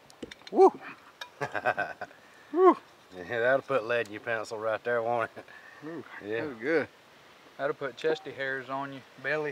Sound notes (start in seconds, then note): 1.4 laughs